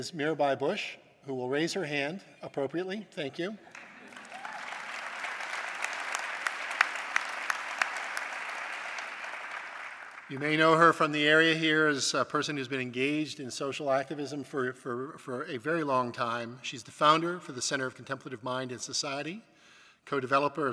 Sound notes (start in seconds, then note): 5.3 applause